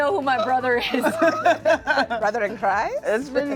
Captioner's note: laughs